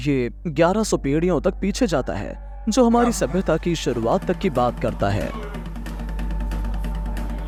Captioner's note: chanting continues